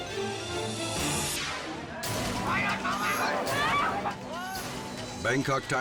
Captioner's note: air whooshes